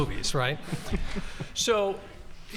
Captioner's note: audience laughing